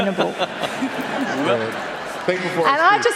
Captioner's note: laughter